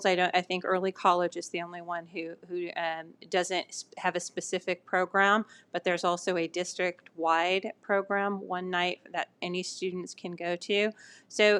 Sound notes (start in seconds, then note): none